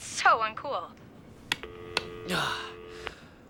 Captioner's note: clicks; sighs